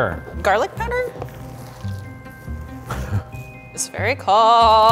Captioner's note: imitation meat squelching